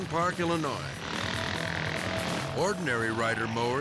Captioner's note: mowers buzzing